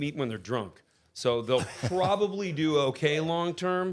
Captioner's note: Robert laughing